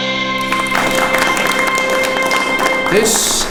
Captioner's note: applause